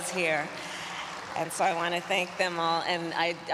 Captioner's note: applause